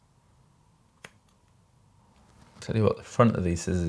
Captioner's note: scissors snipping